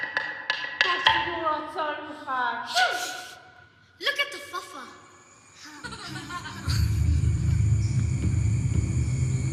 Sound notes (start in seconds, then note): 0.9 non-english; 5.6 child laughing